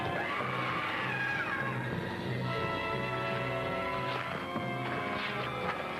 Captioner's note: intense music; Christie screams